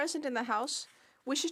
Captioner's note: speaking French